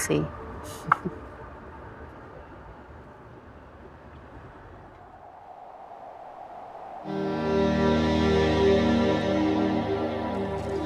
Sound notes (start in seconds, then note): 1.0 chuckling; 4.2 wind blowing; 7.0 soft music